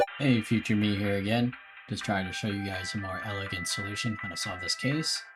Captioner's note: none